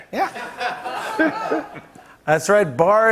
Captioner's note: laughter